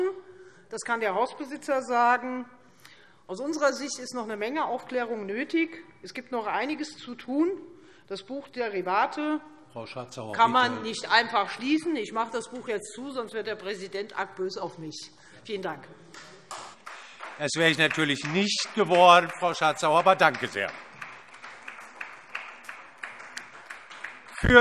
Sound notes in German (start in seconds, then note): 16.4 Beifall Freie Demokraten